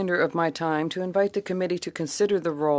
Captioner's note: speaking in French